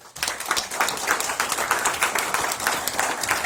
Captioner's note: applause